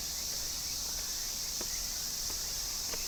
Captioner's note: cicadas buzzing